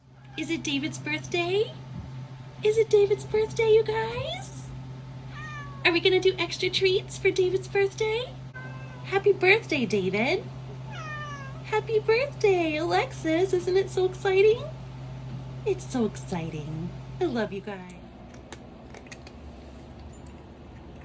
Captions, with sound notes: Is it David's birthday? Is it David's birthday, you guys? (meow) Are we gonna do extra treats for David's birthday? (meow) Happy birthday, David! (meow) Happy birthday! Alexis, isn't it so exciting? It's so exciting! I love you guys. (crunching on treats)